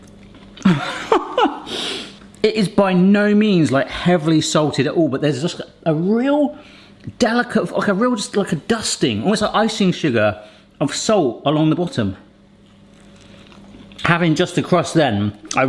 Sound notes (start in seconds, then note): 0.6 laughing